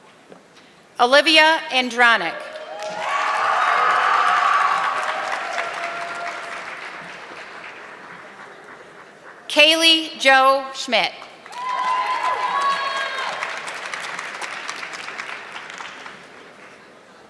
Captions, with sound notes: Olivia Andranic. (audience clapping) Kaylee Joe Schmidt. (audience clapping)